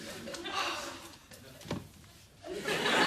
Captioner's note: sighs contentedly